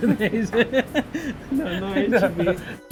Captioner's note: laughing